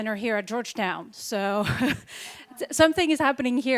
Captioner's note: laughs